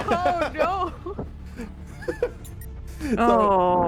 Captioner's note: laughs